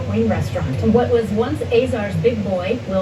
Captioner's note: on TV